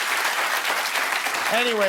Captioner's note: applause